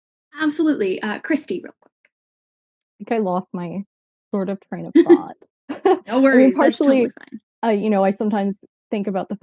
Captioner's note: laughs